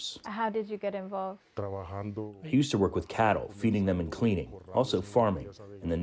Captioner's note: through translator